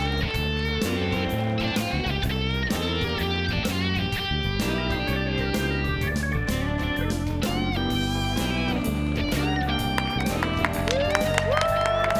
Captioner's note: cheers and applause